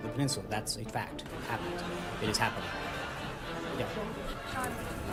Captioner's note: raucous laugh track